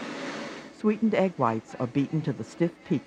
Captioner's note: voiceover